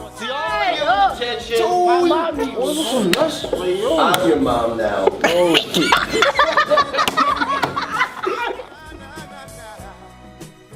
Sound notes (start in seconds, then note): 5.1 kids Laughing